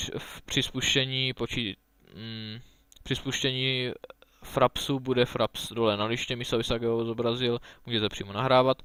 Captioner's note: translates into czech